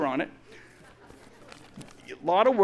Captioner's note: audience laughs